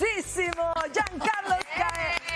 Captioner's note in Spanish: aplausos